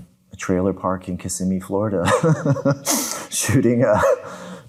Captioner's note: laughing